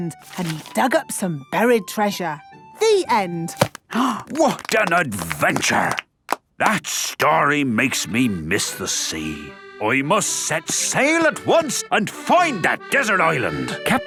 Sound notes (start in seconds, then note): 4.4 applause